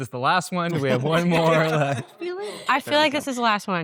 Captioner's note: all laughing